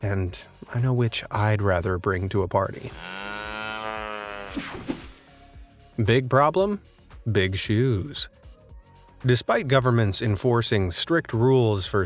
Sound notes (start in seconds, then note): 2.7 cow mooing